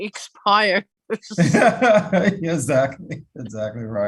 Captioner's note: laughs